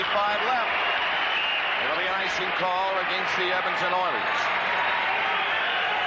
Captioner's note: whistle blows